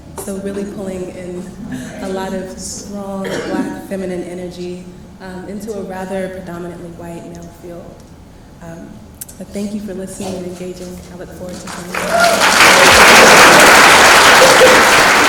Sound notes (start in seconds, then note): 11.5 applause